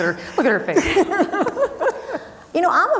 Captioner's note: both laughing